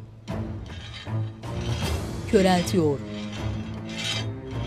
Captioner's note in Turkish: Çelik sürtünme sesi